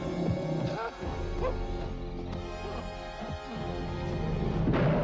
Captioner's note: Hezekiah whimpering; bear roars